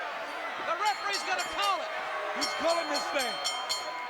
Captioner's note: bell rings